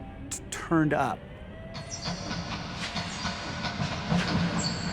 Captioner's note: clock ticking